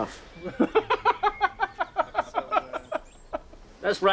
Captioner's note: laughing